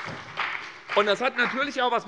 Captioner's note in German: Beifall bei der SPD und der FDP